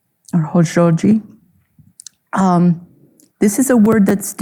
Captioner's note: speaking Navajo